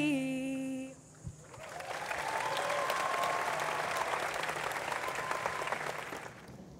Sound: audience applauds

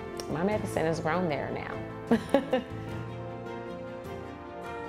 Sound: laughing

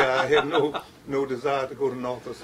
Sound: laughter

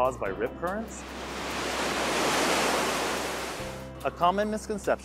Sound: waves washing onshore

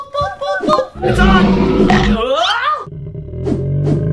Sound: imitates a robot; dinosaur roars and chomps; air whooshes; yells

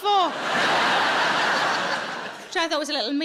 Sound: audience laughing

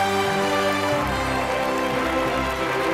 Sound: applauding

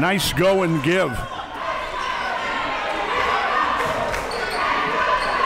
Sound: crowd

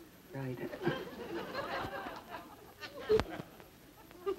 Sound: audience giggles

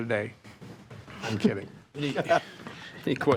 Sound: trustees chuckling

